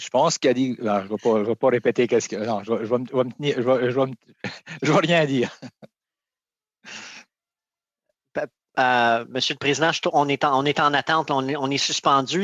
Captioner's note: speaking French